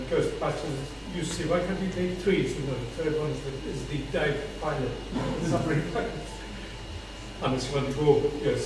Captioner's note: laugh